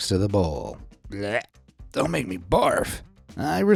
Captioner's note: gags